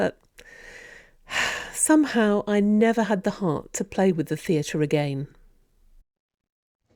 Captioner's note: sighs